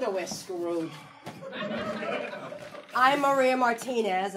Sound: audience laughing

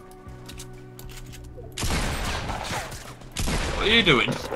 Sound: guns firing

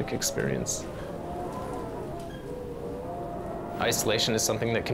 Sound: wind howling

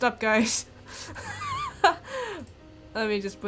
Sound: laughs

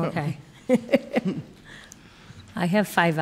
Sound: lady laughing

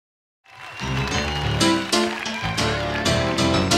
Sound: audience cheering

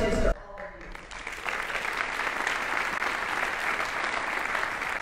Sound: audience applauding

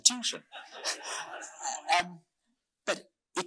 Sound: audience laughing

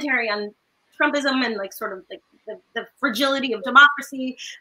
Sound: none

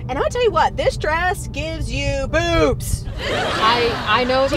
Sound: laughter

